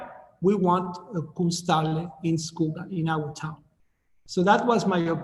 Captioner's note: speaking in foreign language